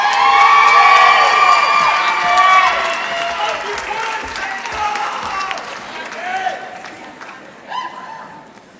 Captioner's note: applause